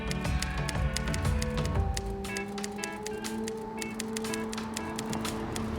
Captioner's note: typewriter tapping